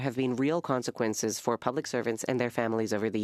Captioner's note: speaking French